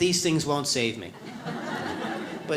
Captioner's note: audience laughs